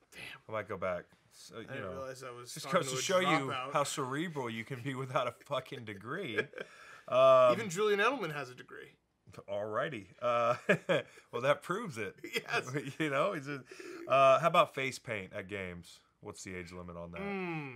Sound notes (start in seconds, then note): 5.7 Dan laughing; 12.1 laughing